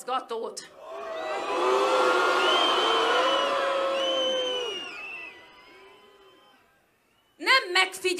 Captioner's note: whistling